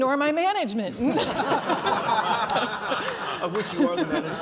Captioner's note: laughter